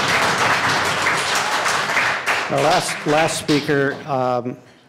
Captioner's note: applause